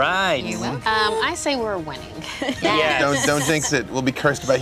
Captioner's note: laughs